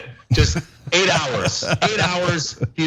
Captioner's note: laugh